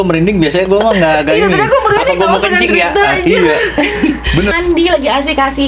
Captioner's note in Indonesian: tertawa